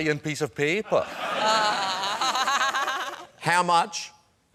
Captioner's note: laughs